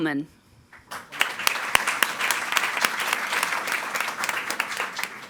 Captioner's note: audience applauding